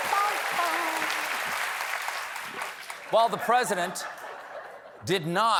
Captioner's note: cheers and applause